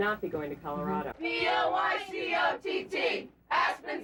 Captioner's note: chant